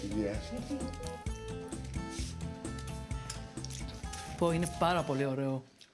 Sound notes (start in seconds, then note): 4.7 speaking in greek